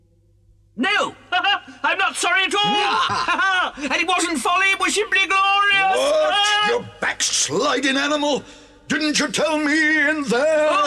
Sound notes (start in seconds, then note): 2.5 laughs